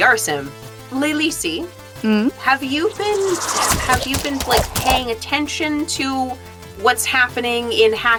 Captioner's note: arrows thwap